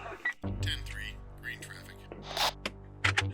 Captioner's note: radio beeps; man On Radio; radio static buzzes